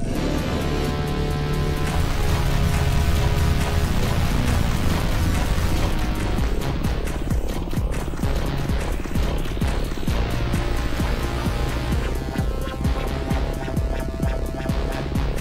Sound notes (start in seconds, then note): 0.2 foreboding synth music; 8.1 footsteps clattering; 12.6 ominous music